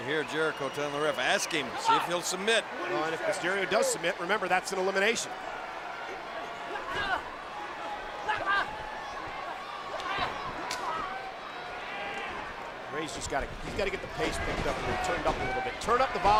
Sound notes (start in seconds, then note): 6.1 crowd murmuring